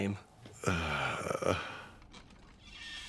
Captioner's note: disgruntled director noise